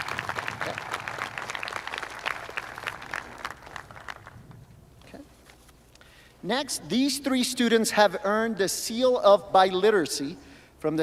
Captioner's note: applause